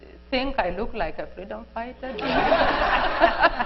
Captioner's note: laughter